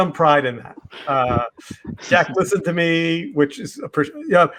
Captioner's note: all laughing